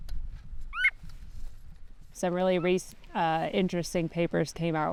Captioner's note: bird calls